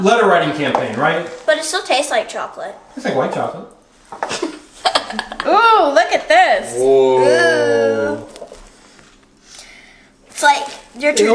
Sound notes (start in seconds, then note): 4.8 girl laughs